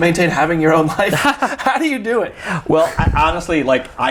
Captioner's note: both chuckle